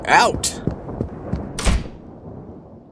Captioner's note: walks out of room and slams door